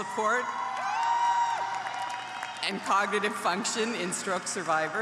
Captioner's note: applause